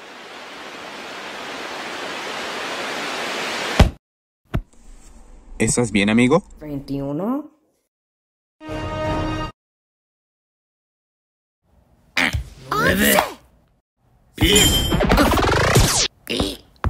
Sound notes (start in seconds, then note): 12.4 Gruñe